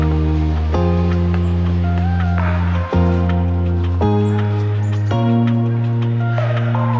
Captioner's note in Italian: Applauso